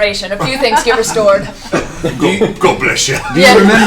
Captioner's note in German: lacht